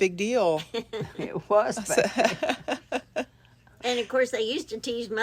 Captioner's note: laugh